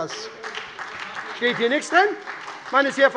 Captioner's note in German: Beifall bei der SPD